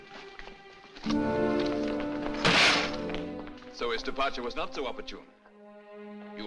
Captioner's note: bangs